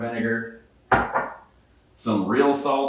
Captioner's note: bottle clatters